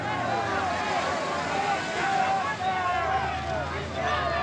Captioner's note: crowd shouting